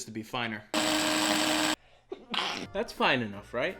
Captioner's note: grinding